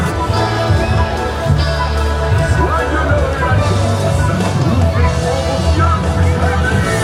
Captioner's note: upbeat instrumental music; Santa speaking in French